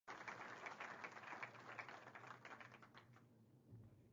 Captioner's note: applause